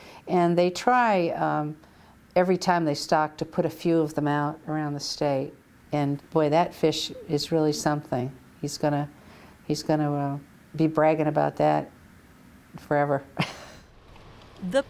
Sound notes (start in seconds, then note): 13.4 chuckles